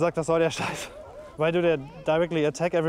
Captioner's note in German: englisch